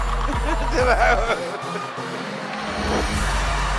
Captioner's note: laughing